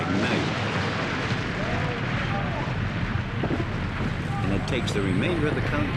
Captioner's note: engines ignite